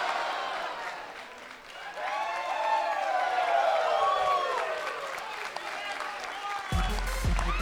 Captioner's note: cheers & applause